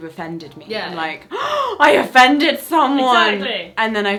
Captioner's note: gasps